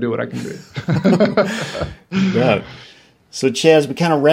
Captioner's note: laughs